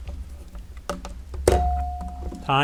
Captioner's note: bell ringing